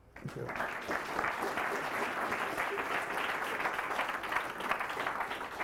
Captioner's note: applause